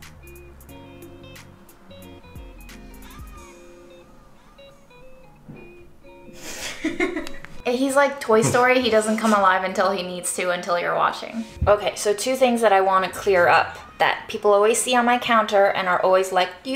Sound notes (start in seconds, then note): 0.2 light guitar music; 4.9 man farting; 6.4 woman laughing